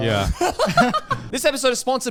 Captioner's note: laughs